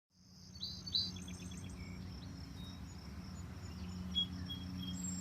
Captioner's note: birds chirping and singing